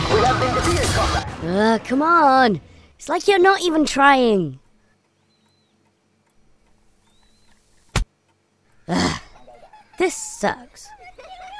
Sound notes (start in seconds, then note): 7.7 splat